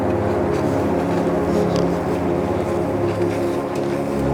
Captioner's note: feet clack